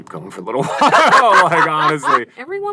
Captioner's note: laughter